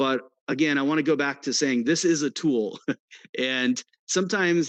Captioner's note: chuckles